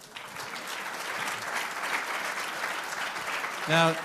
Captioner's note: applause